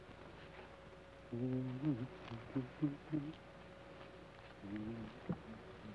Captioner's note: Joshua hums melodically